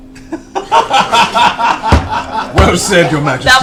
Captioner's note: all laugh